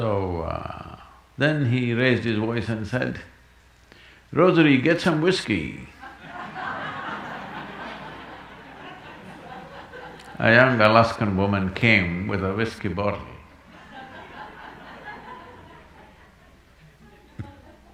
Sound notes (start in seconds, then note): 6.0 laughter; 13.3 laughter